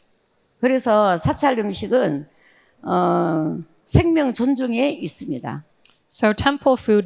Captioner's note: speaking in foreign language